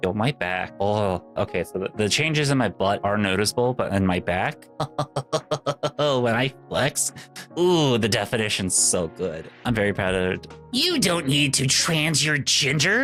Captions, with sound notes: Yo, my back. Oh, okay, so the changes in my butt are noticeable, but in my back. (laughs) When I flex, ooh, the definition's so good. I'm very proud of it. You don't need to trans your gender!